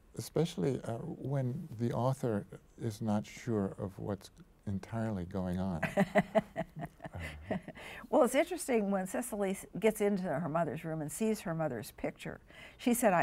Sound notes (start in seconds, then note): 5.8 chuckles